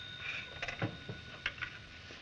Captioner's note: phone rings